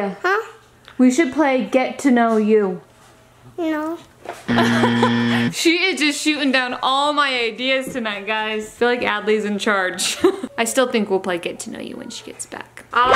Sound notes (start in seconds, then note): 4.5 buzzer; 4.5 laughs